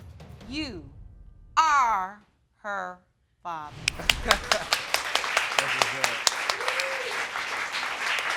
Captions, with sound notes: you are her father. (LAUGHS) (AUDIENCE CLAPPING) (MAN WHOOPING)